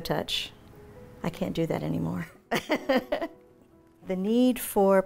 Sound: laughing

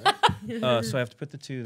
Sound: laughing

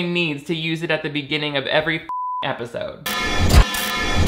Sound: beep

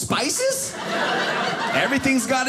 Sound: audience laughing

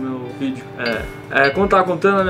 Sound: ding!

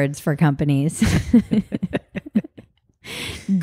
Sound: both laugh

